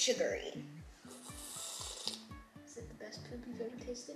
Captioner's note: slurping